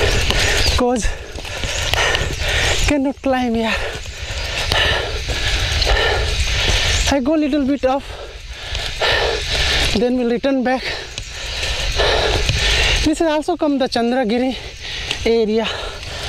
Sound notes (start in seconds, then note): 3.6 deep Breathing; 4.3 cycle Rides Sound